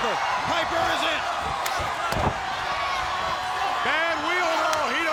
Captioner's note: audience cheering; body thudding